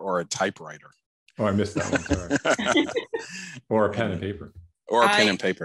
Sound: laughter

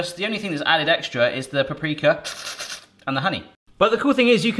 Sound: slurps excitedly

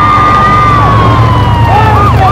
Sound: sirens blaring

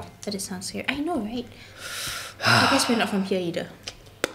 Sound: sighs

